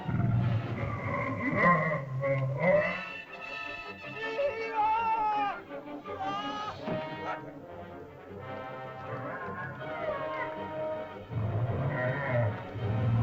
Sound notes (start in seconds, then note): 0.0 dinosaur moans & growls; 4.2 man cries out; 6.8 body thumps; 6.9 dramatic music; 8.9 dinosaur yelps; 8.9 dramatic music; 11.2 dinosaur moans & growls